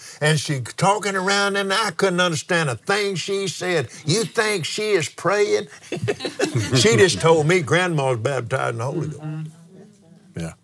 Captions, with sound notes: And she's talking around and I couldn't understand a thing she'd said. You think she is praying? (laughs) She just told me Grandma is baptized in the Holy Ghost.